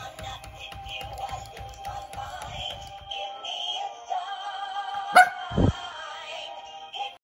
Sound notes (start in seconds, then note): 5.1 barks